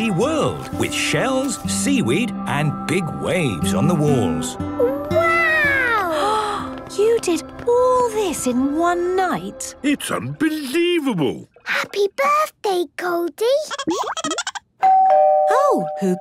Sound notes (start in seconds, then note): 13.7 Goldie giggling; 14.8 doorbell ringing